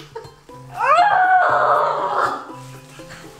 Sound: makes weird noise

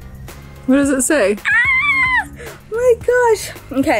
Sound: laughs; squeals

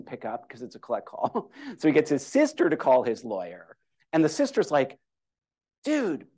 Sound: laughter

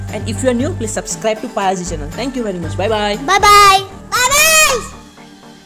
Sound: kids saying bye-bye

